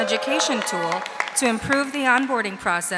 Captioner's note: audience applauding